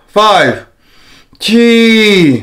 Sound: inhales

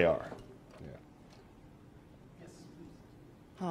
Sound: pause

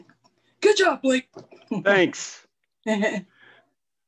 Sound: chuckles

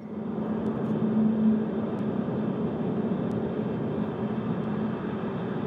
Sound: car driving

